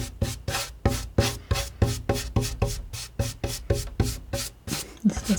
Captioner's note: scratching